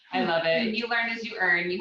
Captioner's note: laughing